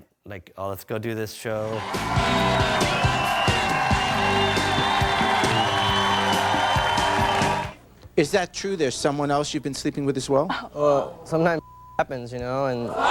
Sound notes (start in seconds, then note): 1.6 audience cheering; 1.7 upbeat jazz music